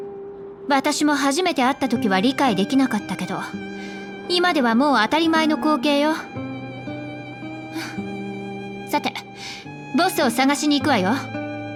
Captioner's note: sigh